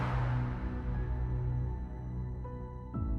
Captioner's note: air whooshing